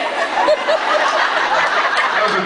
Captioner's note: laughs